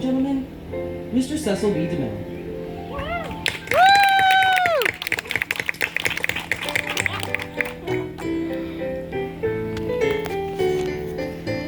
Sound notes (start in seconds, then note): 3.2 cheering and clapping